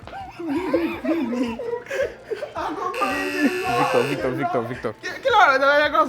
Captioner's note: everyone laughs